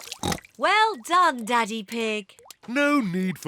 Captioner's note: oinks